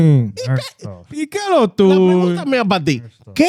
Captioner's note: speaking Foreign Language